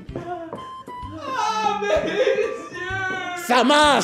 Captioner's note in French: Cris de douleurs